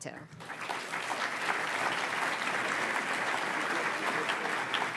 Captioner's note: audience applauds